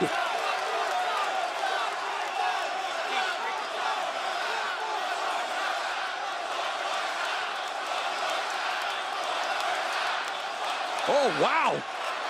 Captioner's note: crowd cheering